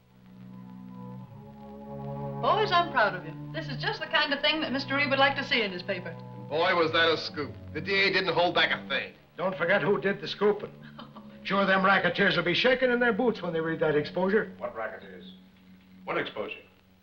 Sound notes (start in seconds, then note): 0.9 somber music; 10.6 laughs